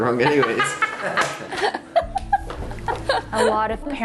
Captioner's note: everyone laughing